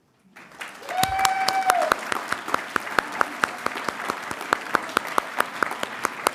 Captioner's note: audience cheering and applauding